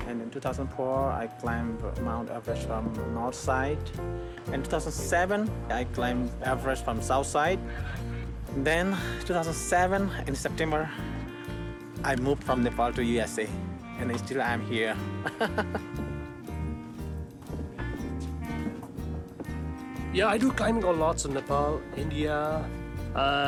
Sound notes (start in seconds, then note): 15.1 laughs; 16.2 slow jazzy music